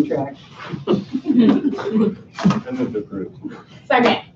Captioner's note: laughter